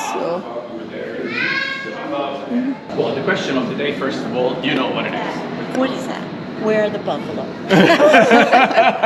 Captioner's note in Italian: Risate